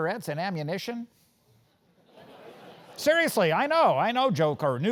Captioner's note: laugh